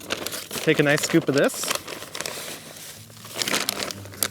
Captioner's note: bag rustles